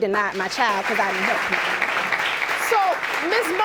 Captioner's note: audience applauding